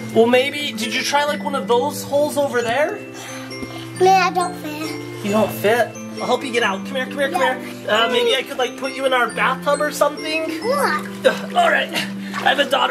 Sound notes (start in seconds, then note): none